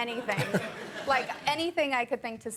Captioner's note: audience laughing